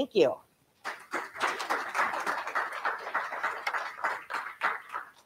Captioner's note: audience clapping